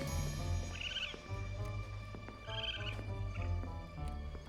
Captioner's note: animals calling